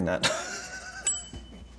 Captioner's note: laughs; bell dinging